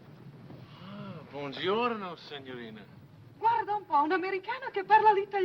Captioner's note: speaking foreign language